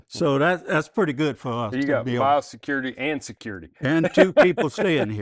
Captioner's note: laughs